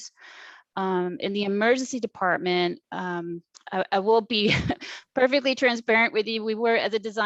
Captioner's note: laughs